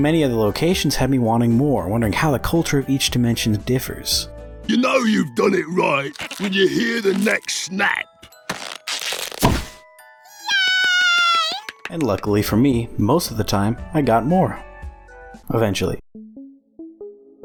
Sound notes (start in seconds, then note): 8.4 pop